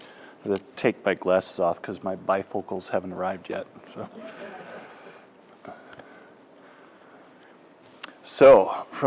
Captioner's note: laughter